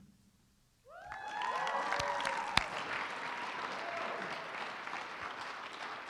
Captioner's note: applause